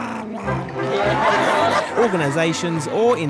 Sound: clamouring

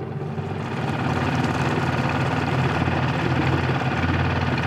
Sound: motor accelerating

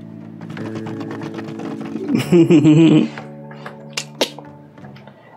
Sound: laughs

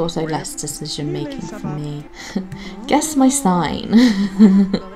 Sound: giggles

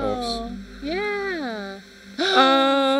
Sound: gasps

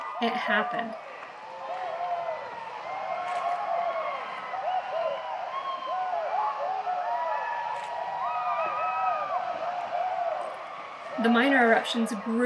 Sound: cheering

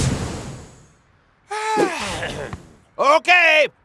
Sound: yawns

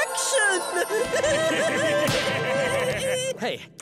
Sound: laughing

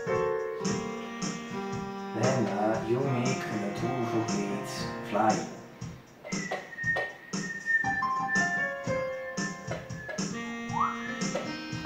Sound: whistle

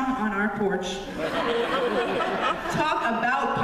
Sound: laughter

